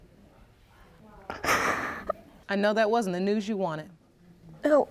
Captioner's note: sobbing